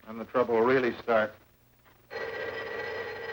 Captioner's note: phone ringing